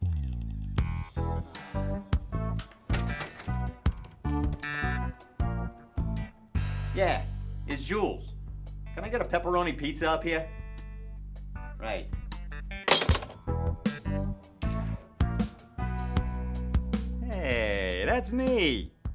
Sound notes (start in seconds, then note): 0.8 upbeat groovy music; 12.8 upbeat groovy music; 12.8 phone thuds